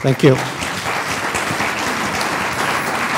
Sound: applause

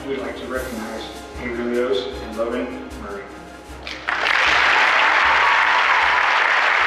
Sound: applause

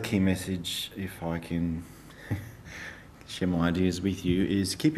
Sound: laughs

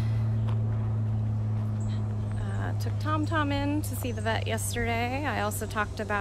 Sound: airplane noise

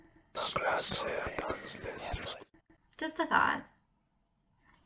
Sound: FX: Ominous whispering

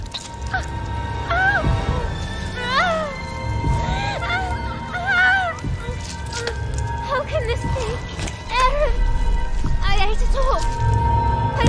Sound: in-game audio

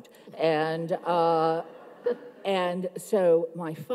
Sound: audience laughs

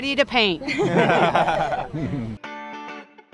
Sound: laughter

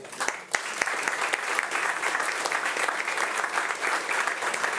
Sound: audience applauding

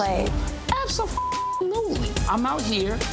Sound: beep

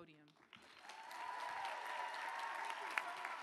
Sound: applause

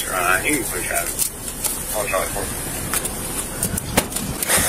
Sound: radio chatters

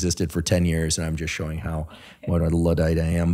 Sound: laughing

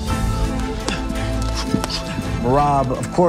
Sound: grunting

